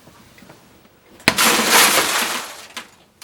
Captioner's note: crash of TV glass